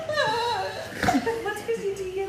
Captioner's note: laughing